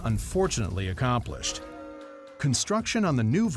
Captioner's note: crowd boos